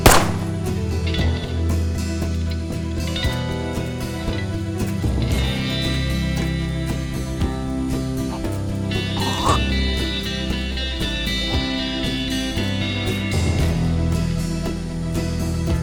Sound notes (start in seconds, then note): 0.0 gun firing; 9.1 Billy gagging